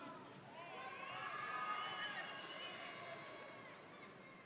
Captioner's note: audience cheering